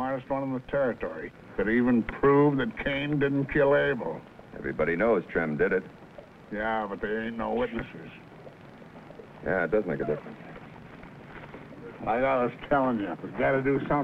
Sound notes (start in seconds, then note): none